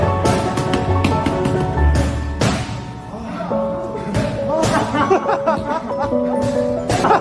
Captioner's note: laughs